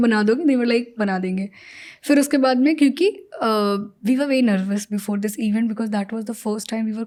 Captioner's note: speaks in Hindi